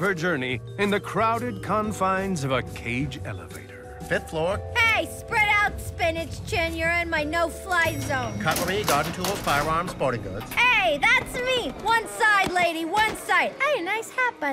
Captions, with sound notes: in the crowded confines of a caged elevator. - Fifth floor. - Hey, spread out, spinach chin. You're in my no-fly zone. [elevator dings] - Cutlery, garden tools, firearms, sporting goods. - Hey, that's me. One side, lady, one side. Hey, nice hat, by the way.